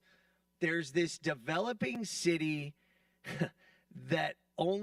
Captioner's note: chuckles